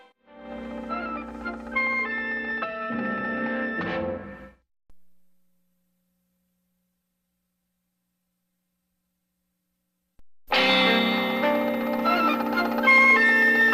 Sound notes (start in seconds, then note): 0.3 old-fashioned music continuing; 5.0 silence; 10.5 old-fashioned music resuming